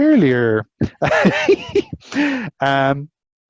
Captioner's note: laughs